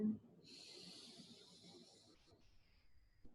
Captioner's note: inhales